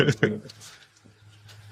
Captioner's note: laughing